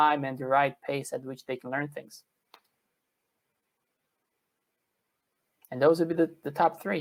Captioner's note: pause